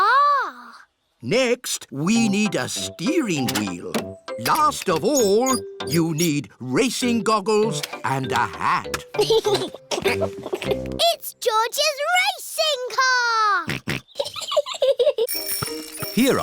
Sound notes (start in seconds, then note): 9.1 chuckles; 13.7 snorts; 13.8 chuckles